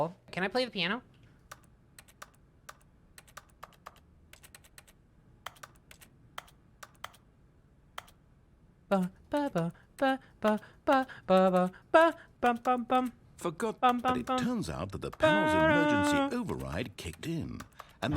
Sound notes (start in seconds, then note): 3.1 computer keyboard clicks to the rhythm of the theme; 8.7 clicking continues, singing along